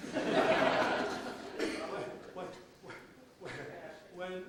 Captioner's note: audience laughs